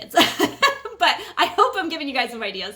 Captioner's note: laughing